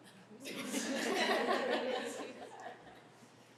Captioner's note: chuckling